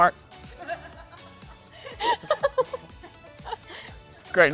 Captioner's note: laughing